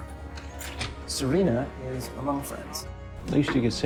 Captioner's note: voiceover; voiceover